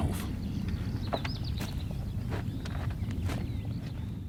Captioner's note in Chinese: 鸟类鸣叫